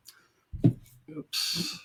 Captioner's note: item lightly thuds